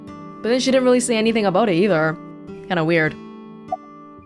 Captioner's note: none